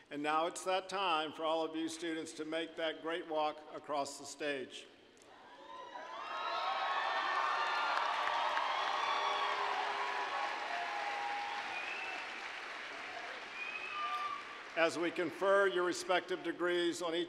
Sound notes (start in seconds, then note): 6.0 applause, cheering